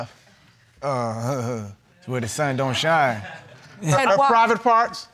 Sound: chuckles nervously

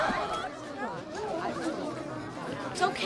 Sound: students murmuring

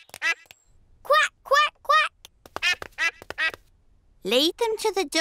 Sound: ducklings quack; ducklings quack

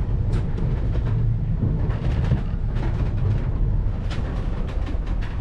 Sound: sailboat creaking

